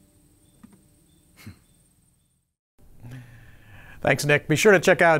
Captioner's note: chuckles